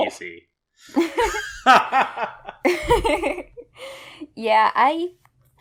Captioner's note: laugh